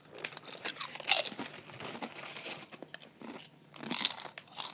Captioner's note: chips crunching